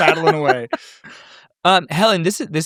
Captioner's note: laughing